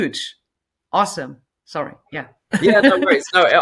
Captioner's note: laughing